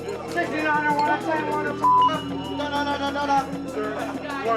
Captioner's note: beep